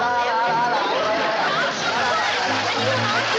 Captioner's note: humming